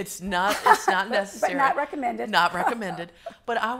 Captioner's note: laughs